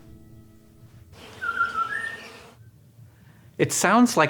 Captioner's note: birdsong